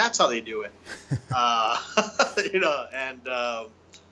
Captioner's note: both chuckling